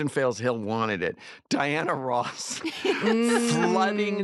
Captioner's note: laughter